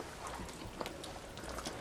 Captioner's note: none